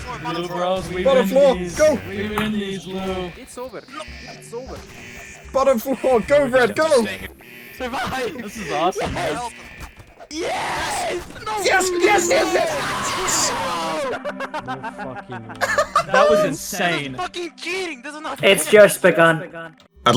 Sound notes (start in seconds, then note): 14.2 giggle